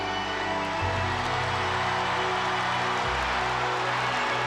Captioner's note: audience cheering